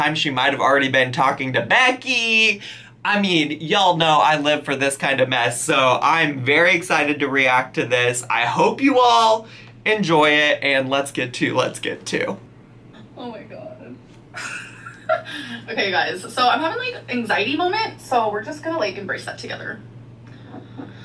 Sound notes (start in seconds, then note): 14.3 laughing